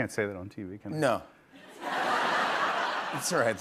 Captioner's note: laughter